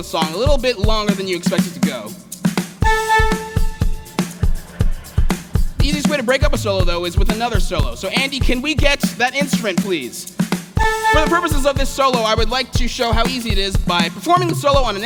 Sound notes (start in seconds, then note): 3.3 laughter